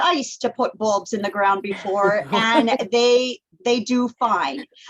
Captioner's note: laughter